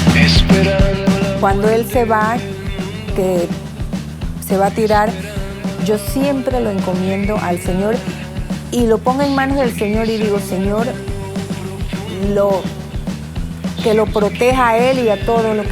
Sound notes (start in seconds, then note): 1.8 speaking Spanish